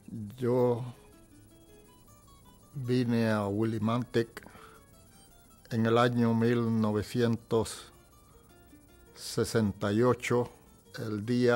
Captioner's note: speaking in spanish